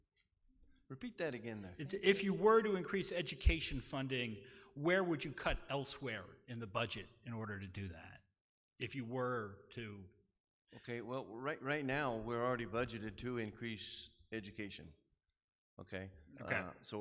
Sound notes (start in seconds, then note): none